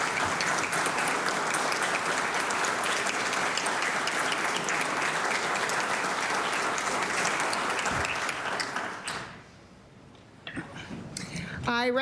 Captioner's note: applause